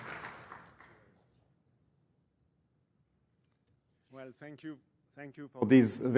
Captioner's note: applause